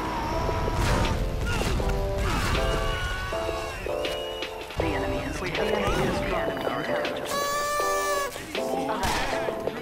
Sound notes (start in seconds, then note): 5.6 Scout scared followed by my party horn